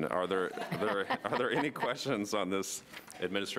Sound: laughing

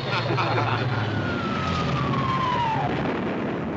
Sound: bomb whistles down

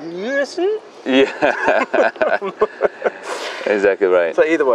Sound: both chuckle

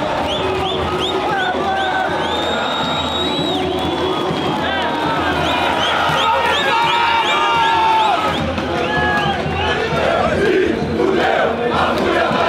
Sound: Crowd chanting for FURIA

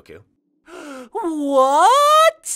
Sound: GOKU gasps

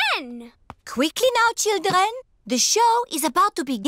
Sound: none

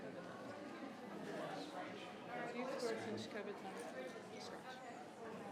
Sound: people chattering

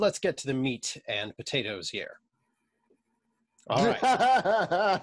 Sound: laughter

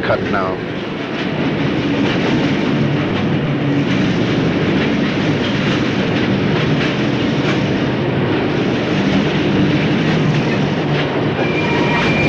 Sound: sound of the train moving

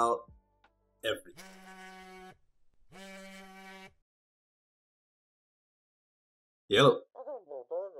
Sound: phone buzzes

